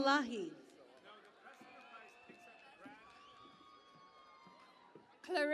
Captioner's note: cheering and Applause